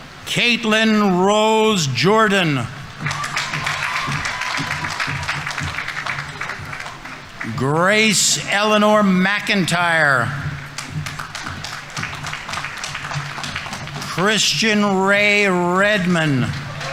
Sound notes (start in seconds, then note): 2.9 audience members cheering; 2.9 audience applauding; 9.7 audience applauding